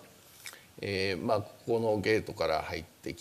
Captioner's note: speaking japanese